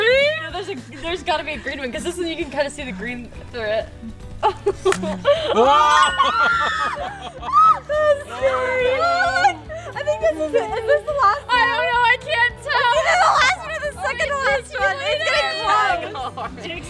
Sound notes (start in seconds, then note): 4.7 laughing; 5.4 woman screams; 5.5 balloon pops